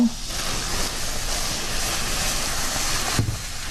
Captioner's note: pours liquid